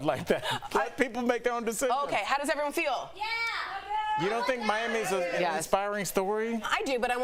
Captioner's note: laughter